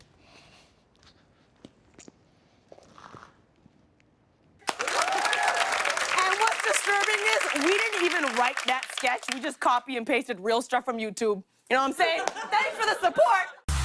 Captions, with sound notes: [ Cheers and applause ] -And what's disturbing is we didn't even write that sketch. We just copied and pasted real stuff from YouTube. You know what I'm saying? Thanks for the support!